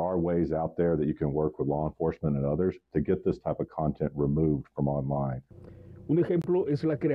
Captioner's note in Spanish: habla en ingés